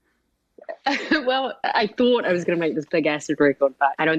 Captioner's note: laughter